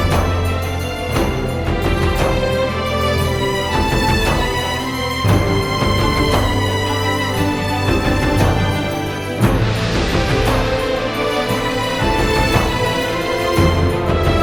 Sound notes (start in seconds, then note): none